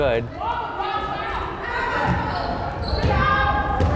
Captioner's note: crowd yelling